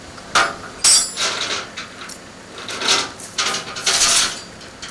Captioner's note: chains rattling